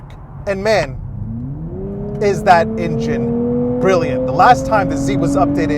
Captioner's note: car engine revs